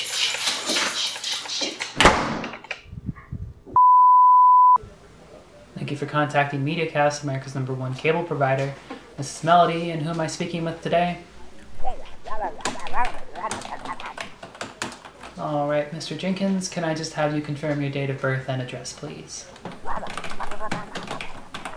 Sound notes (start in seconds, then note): 5.3 beeeeeeep